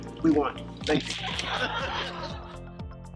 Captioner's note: laughter